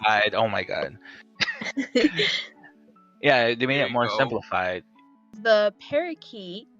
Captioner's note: laugh